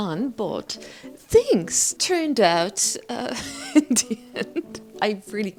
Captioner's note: laughs